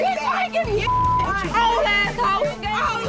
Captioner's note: beeping